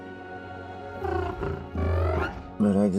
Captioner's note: alien chittering